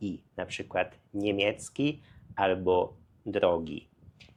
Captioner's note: German